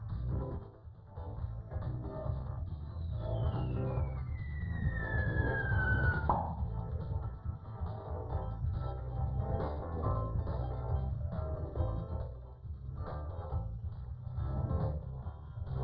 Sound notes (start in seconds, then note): 3.3 high-pitched whirring